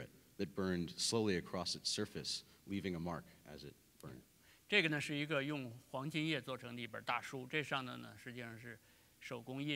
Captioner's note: speaking in Chinese